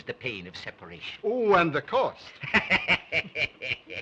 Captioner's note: laughs